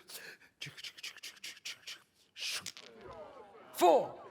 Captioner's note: dice sounds